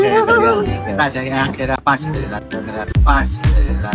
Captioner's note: Italian